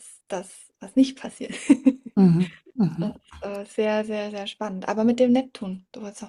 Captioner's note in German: gelächter